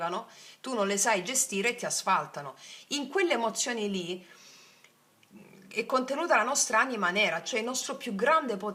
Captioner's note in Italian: sbuffare